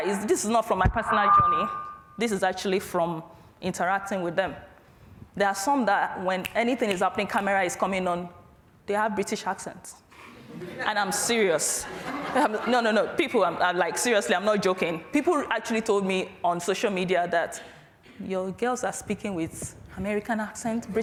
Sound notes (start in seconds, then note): 11.7 audience laughs